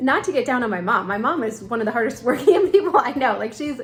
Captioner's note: laughing